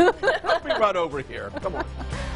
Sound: laughing

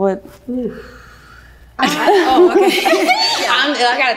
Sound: all laugh

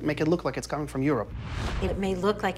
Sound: air whooshing

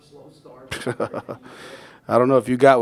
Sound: laughs

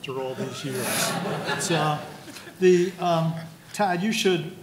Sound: laughing

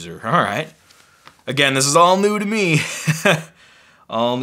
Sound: laughs

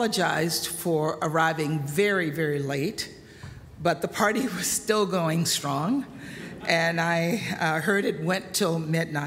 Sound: laughter

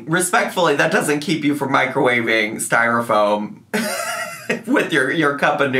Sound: laughs

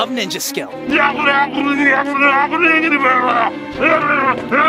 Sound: hacker mumbling

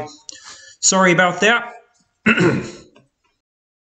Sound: clears throat

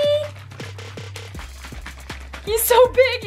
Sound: liquid shaking

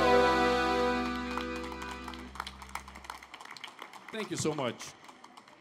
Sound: audience applauding

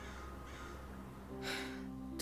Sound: sighing

